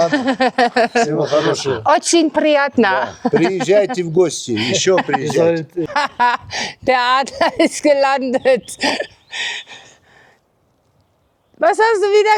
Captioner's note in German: gelächter; gelächter